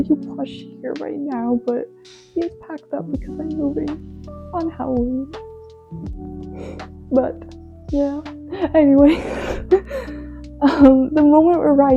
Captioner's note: laughs